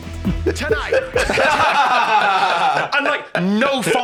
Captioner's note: all laughing